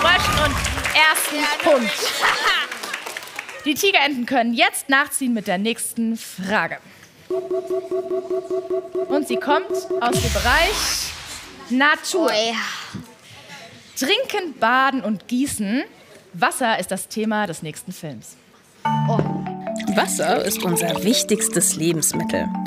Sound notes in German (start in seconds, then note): 7.3 Buzzer; 7.9 Schwankende Musik